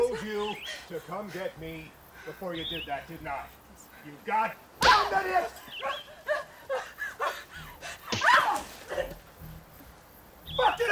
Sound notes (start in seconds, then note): 8.0 sharp smacking; 8.3 Watkins yells